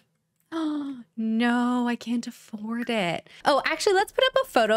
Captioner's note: gasp